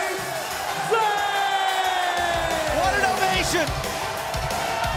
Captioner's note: crowd cheering